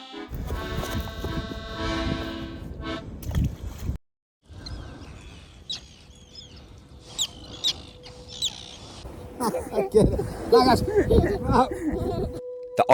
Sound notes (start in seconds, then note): 0.0 accordion music; 4.5 bird song